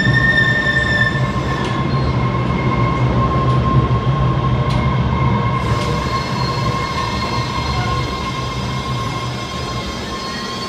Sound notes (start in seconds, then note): 6.5 train stopping and screeching